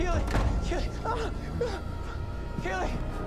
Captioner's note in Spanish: Gruñidos